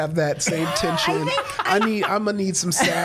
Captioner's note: Brennan guffawing